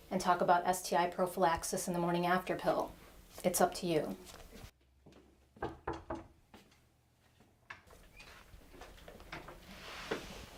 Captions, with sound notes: and talk about STI prophylaxis and the morning after pill. It's up to you. (knocks)